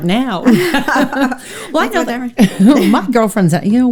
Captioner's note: both laughs